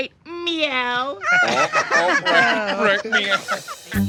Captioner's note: laughter